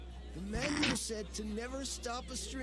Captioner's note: noise laugh